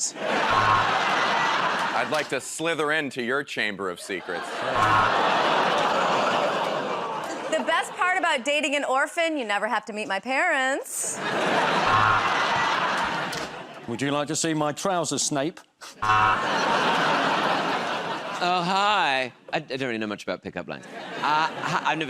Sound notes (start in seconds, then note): 0.0 laughter; 4.5 audience groans; 11.1 laughter; 16.0 laughter